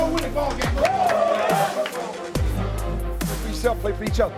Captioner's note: team cheering